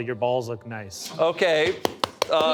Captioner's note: Bob clapping